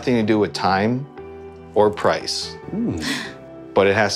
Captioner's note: humming